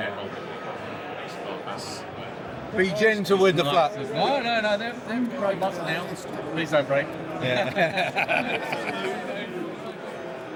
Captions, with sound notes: Yeah. Be gentle with the glasses, no? No, no, no, they're, they're in the gray button now. Please don't break. Yeah. (Laughs)